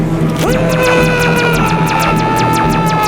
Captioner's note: screaming aggressively